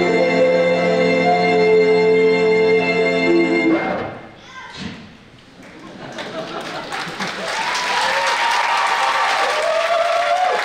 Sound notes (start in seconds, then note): 3.9 record scratch, song abruptly ends; 5.6 audience laughing; 7.2 audience applauding